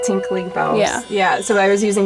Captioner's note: voiceover